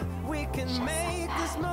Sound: whispers

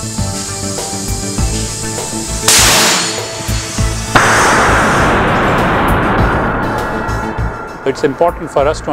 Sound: explosion

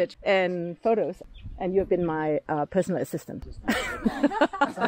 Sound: laughing

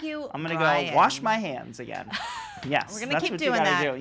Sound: laughs

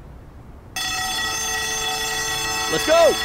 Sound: alarm sounds

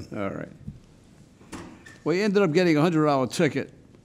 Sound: none

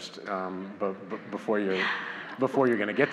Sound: audience laughs

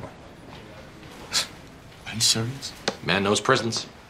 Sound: scoffs

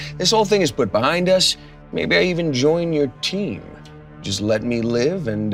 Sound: none

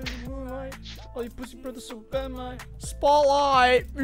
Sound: none

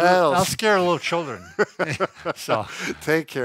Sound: laughs

